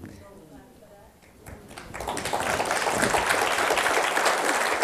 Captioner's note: applause